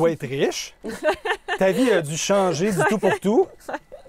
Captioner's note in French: rires